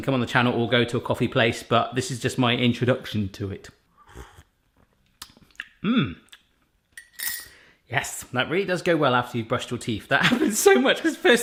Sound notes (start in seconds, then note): 4.0 slurping